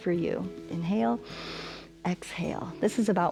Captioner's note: inhales